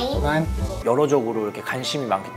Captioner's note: in German